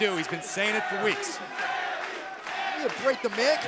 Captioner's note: crowd cheering